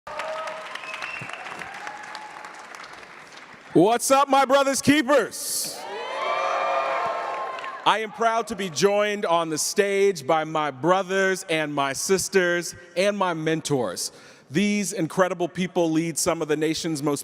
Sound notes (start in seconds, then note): 0.0 crowd applauding and cheering; 5.5 crowd cheering